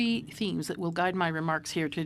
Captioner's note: speaking French